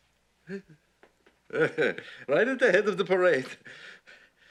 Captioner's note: chuckles